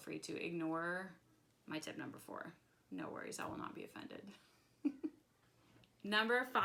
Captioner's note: laughs